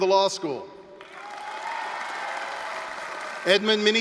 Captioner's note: applause, cheering